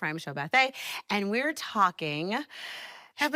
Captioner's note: inhales